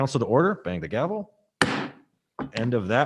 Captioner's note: gavel bangs